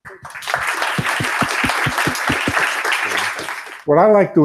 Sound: applause

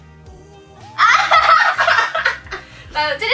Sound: laughs

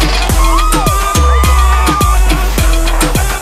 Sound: screaming

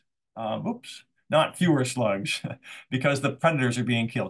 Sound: chuckles

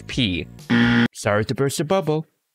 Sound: buzzer

